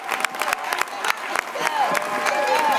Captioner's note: chanting